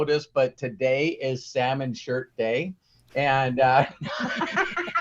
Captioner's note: laughing; everyone laughs